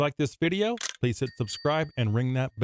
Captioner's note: bell ringing